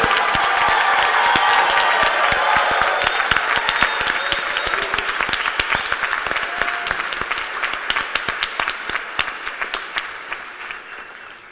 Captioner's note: cheers and applause